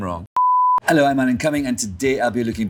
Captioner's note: beeps